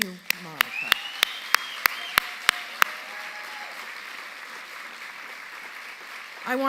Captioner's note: audience cheering and applauding